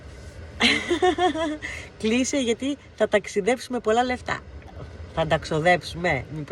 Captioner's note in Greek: γέλια